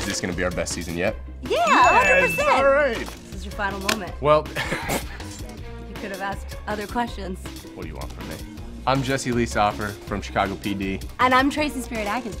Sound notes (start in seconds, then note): 4.5 chuckles